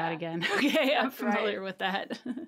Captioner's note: laughing